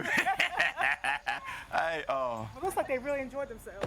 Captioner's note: both laughing